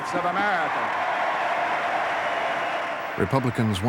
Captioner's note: cheers and applause